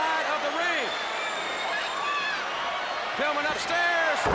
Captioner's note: crowd chatter